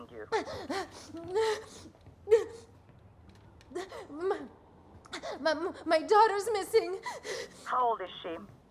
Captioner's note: breathing heavily